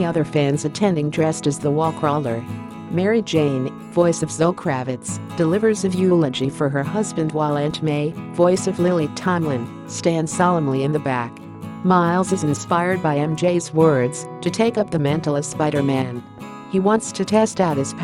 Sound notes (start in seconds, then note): 8.2 voice of Lily Tomlin